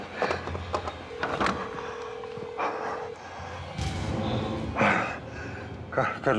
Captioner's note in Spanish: la otra línea timbra